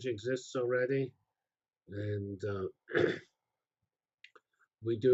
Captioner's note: pause